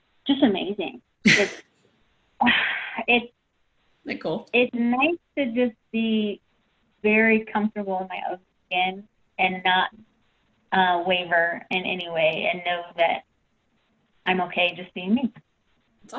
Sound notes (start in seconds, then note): 1.3 laughs